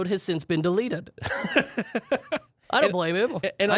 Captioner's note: laughs